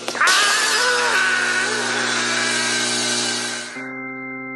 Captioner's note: window crashes - Franks screams as he falls